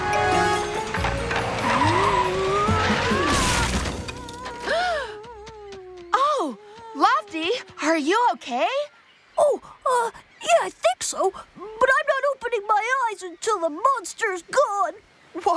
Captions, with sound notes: OOOHH... ( Crash! ) ( Wendy Gasps ) OH, LOFTY, ARE YOU OKAY? OH, UH, YEAH, I THINK SO! BUT I'M NOT OPENING MY EYES UNTIL THE MONSTER'S GONE!